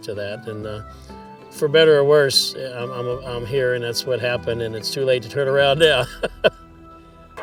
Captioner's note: laughs